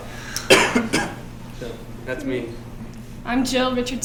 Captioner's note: coughing